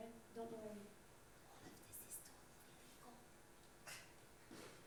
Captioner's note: whispering